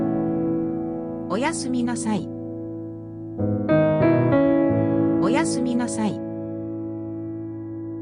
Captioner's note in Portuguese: japonês